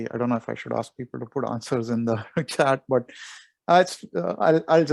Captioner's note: chuckles